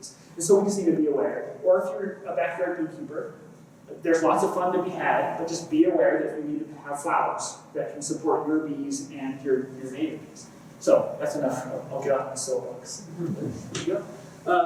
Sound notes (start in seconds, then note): 13.1 laughter